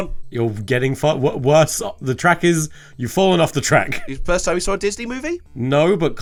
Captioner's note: laughs